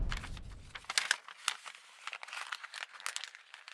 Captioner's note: paper rustling